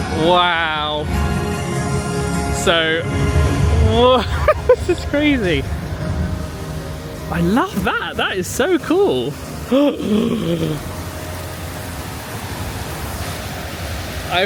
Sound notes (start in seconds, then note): 3.6 laughing; 9.7 gasping; 11.4 water splashing